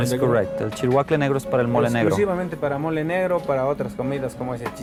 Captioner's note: speaking in foreign language